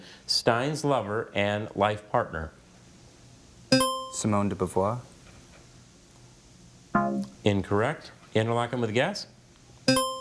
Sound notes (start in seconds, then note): 3.8 buzzer chimes; 6.9 bell blares; 10.0 buzzer chimes